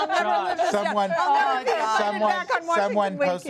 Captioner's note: laughter